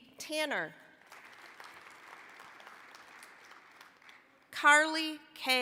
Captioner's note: applause